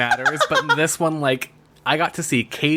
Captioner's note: laughs